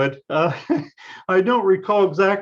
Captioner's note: laughs